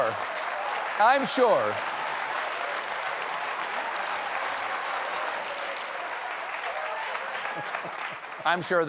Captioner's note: cheers and applause